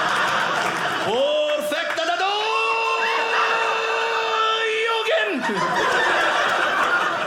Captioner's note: audience laughing; pretend Japanese; audience laughing